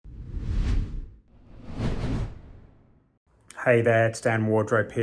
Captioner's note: logo whooshing